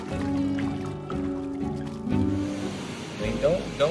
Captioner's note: water splashing; gentle music; waves splashing